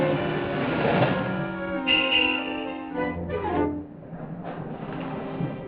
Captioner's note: car horn honking